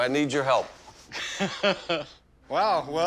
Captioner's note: laughs